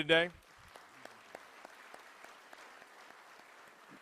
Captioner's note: applause